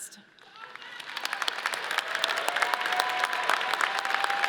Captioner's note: audience cheers